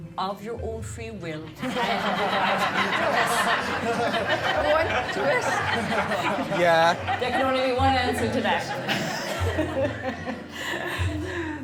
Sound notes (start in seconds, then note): 1.7 guests laughing; 10.0 laughing